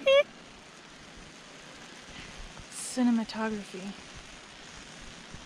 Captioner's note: whispers